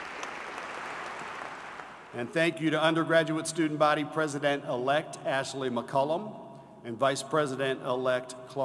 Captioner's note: applause